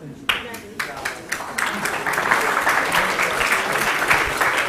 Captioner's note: applause